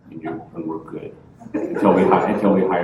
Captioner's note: laughter